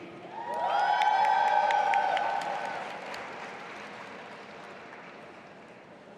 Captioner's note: audience applauding and cheering